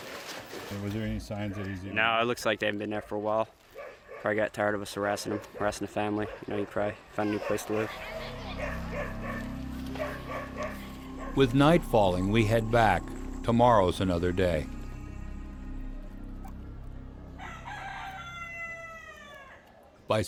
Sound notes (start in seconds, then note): 8.2 dogs barking; 11.5 voiceover; 17.0 rooster crows